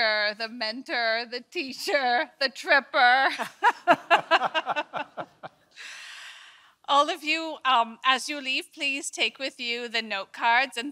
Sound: laughs

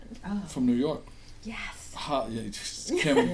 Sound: voiceover

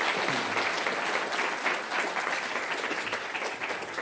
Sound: applause

